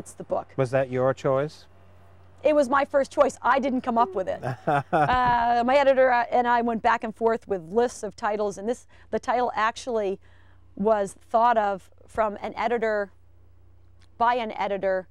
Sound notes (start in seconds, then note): 3.9 laughing